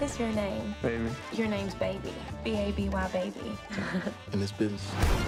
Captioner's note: laugh